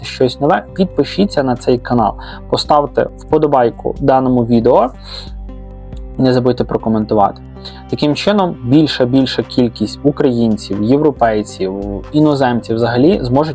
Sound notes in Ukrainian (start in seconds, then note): 5.0 сопіння